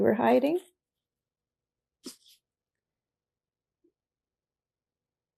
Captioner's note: pauses 6 seconds